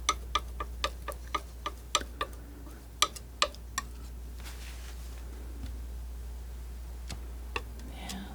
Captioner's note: scratching